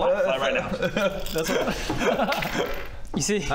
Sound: laughs

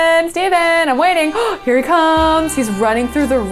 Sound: gasps

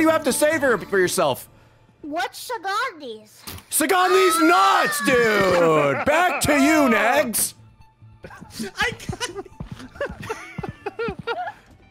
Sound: laughs

